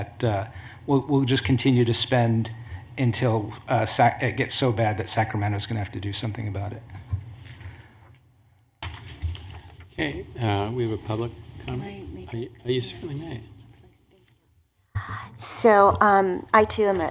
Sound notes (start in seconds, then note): 8.8 rustling of papers